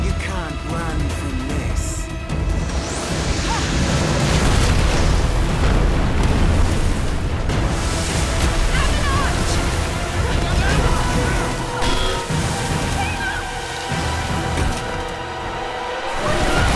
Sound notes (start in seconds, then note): 2.5 fire whooshing; 3.7 mountain crashing; 7.8 dramatic music; 10.2 group grunting and yelling; 11.8 metal clanking; 14.1 dramatic music